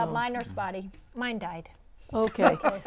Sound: laughing

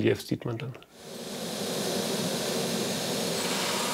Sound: flame hisses

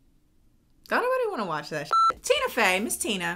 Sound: beep

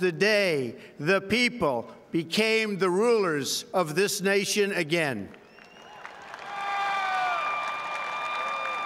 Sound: cheers and applause

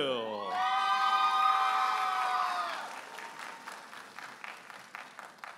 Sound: audience applauding and cheering

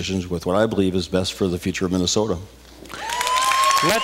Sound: cheers, applause

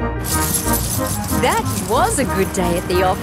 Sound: coins jingling

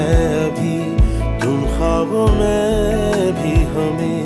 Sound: none

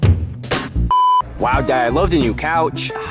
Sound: rock music; beep

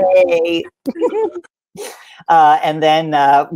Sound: giggles

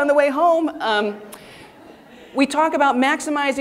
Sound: audience laughing

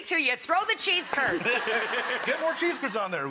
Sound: laughter

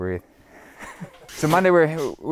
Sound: laughs

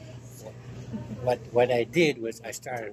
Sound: chuckling

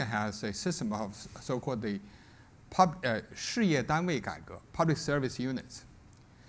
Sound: speaks Chinese

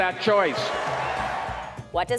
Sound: cheers and applause

